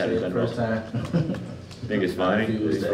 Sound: chuckles

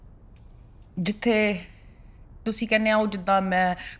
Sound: speaking Punjabi

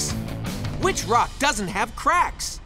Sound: none

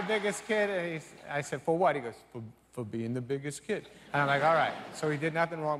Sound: laughter

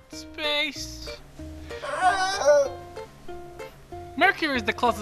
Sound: Lyle moaning in pain

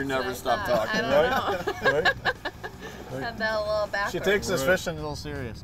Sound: laughter

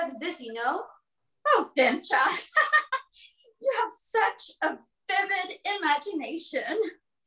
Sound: laughs

